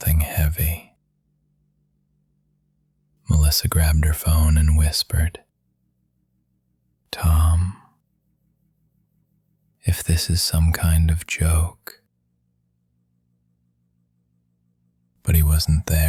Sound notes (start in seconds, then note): 5.6 whispering